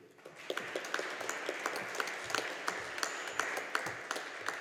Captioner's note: audience applauding